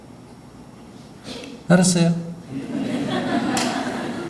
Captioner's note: audience Laughter